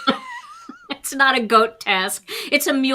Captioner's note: all chuckles